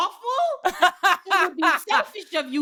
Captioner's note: both laughing